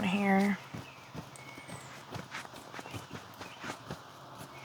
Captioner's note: birds Chirping